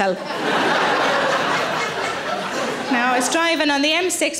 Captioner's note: audience laughing